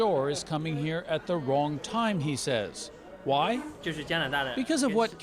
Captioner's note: speaking chinese